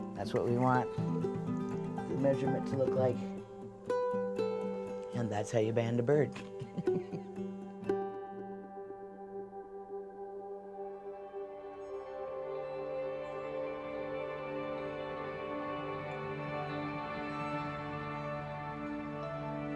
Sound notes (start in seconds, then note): 6.4 chuckles; 11.9 gentle music